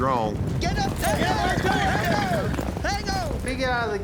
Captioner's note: cowboys shouting